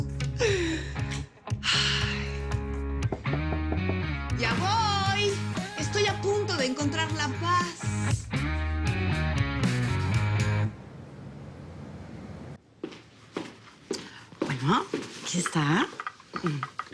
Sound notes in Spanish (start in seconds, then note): 3.1 Toques en la puerta